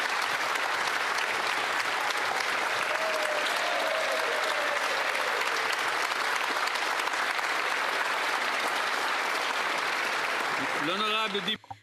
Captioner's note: applause